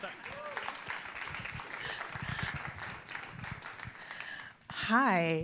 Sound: audience applauding

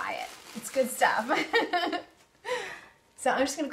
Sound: laughs

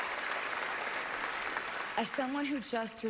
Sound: cheering, applause

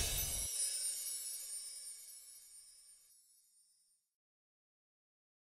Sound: whooshing; chimes

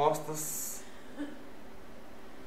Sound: laughs

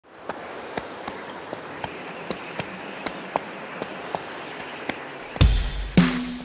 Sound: horse Clops

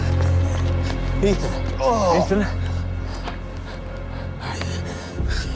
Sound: groaning

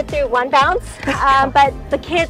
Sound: chuckles

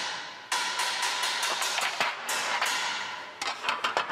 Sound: metal banging in the background

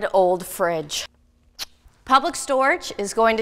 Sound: kissing sound

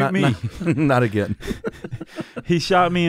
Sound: chuckles

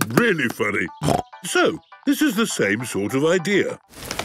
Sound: snorting

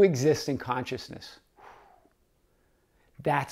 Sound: exhaling

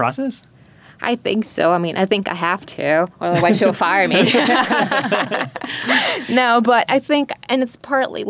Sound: laughing

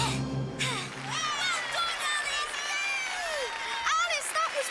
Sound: crowd cheers and claps

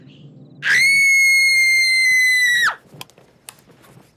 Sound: Aalia Screaming

